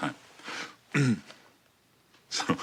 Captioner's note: Barney clears throat; he chuckles